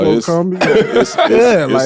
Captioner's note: laughs